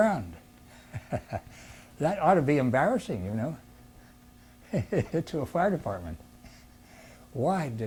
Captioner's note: laughs; laughs